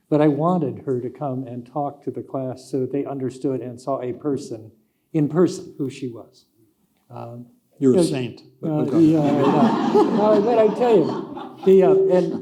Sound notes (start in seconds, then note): 8.8 audience laughing